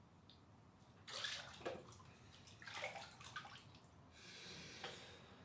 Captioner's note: water splashing